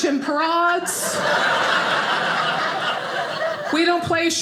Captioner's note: audience laughing